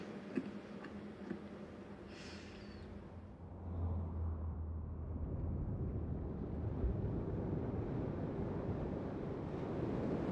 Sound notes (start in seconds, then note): 0.3 chuckles; 5.1 car rumbling